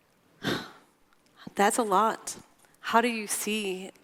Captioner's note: sighs